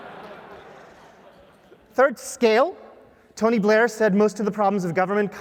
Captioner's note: laugh